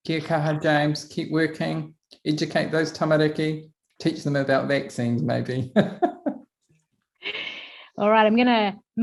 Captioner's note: laughs